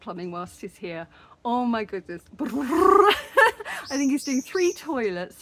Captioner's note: laughing; brrr